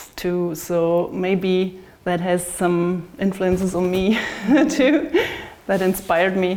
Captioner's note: chuckles